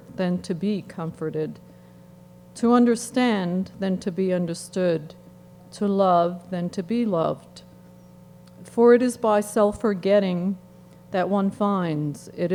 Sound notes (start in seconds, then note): none